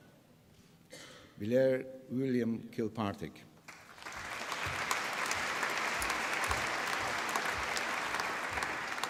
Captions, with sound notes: Blair William Kilpatrick. (APPLAUSE)